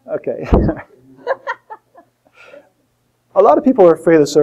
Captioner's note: laughter